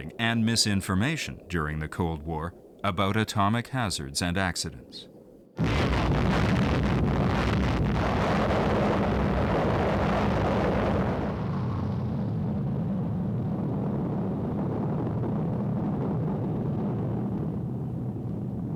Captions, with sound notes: and misinformation during the Cold War about atomic hazards and accidents. [explosion]